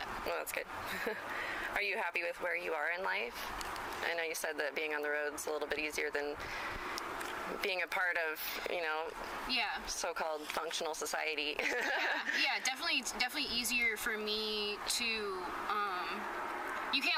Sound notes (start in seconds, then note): 11.6 laughs